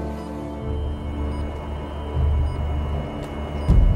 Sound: pinging

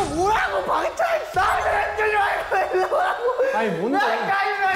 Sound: is afraid to be alone and yells

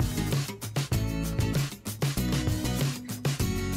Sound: none

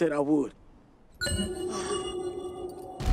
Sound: electronic chime echoes

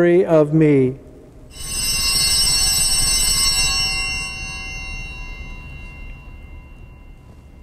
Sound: bells ringing

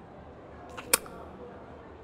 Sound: kiss

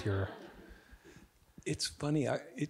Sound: audience giggling

